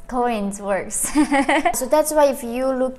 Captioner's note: chuckling